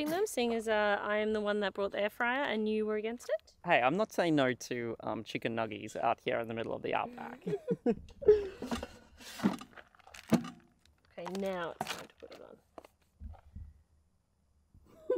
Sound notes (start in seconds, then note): 7.1 laughs